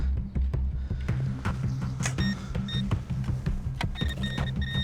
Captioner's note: beeping